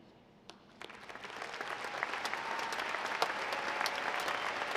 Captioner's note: audience applauding